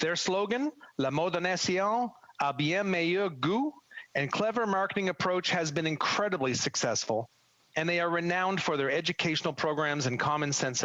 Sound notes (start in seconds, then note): 7.1 speaking French